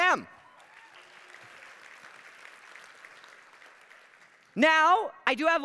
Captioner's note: attendees applauding